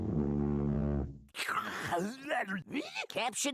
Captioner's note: salivating